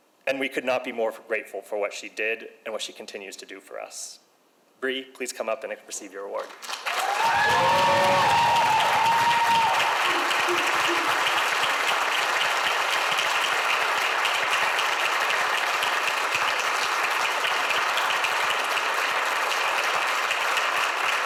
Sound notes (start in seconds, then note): 7.2 audience applauds; 7.2 audience cheers